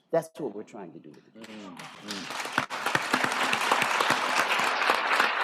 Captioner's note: applause